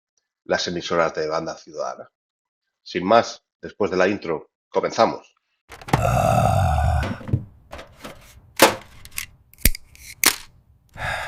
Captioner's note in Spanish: gemido